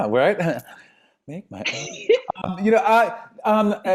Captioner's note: laughs